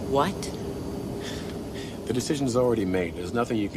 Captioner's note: chuckles